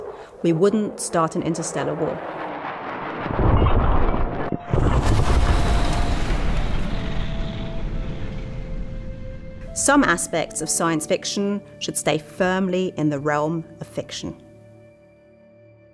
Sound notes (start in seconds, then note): 4.8 explosions